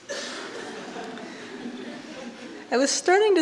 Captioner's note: audience laughing